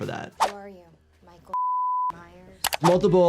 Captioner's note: beep